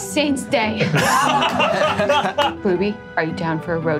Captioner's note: all laughing